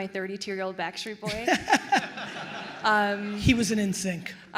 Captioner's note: attendees laughing